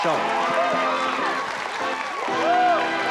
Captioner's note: cheering and applause